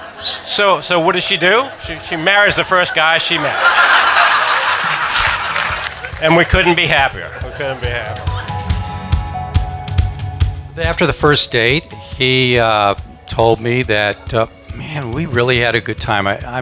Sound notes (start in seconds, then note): 0.0 laughing; 3.9 laughing; 8.6 upbeat music